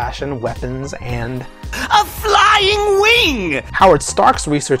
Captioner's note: Mark Hamill's Joker Voice "A Flying WIng!"